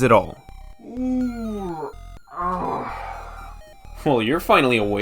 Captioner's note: Retriklone yawns after minutes' worth of sleep